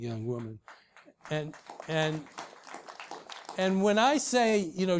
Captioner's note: applause